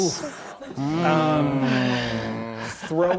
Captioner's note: players groaning